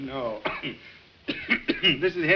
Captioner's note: coughs